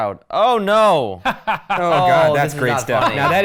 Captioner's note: The Professor laughs